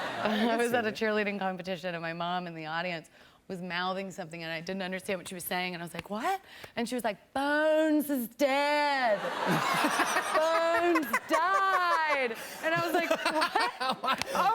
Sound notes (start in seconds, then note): 9.1 laughter